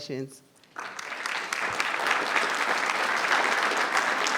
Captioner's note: applause